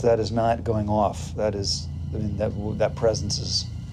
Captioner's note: stammers